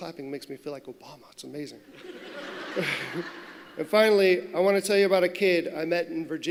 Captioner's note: laughter